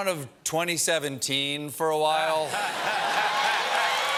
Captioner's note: laughter